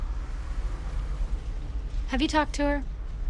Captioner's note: vehicle engines revving